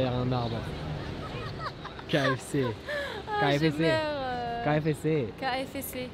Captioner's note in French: rire